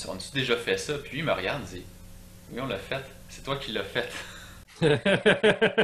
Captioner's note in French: rires